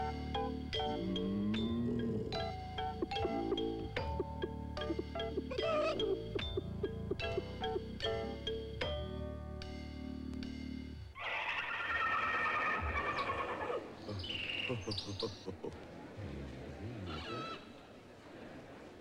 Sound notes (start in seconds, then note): 11.2 horse neighing; 13.8 laughing and murmuring